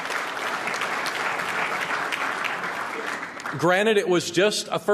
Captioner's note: applause